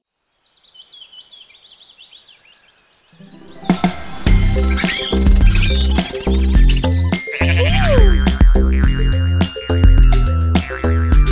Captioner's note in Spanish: Sonido de pájaros; Sonido de oveja